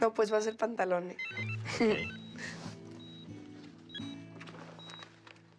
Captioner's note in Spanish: Suena el celular; Risas